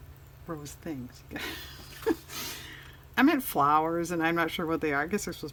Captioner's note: laughs